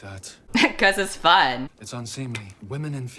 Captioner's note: laughs